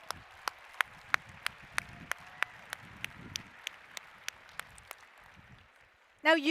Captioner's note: applause